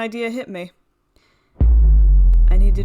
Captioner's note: boooooom